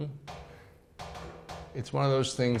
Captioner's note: metal clinks